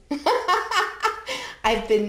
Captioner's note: laughs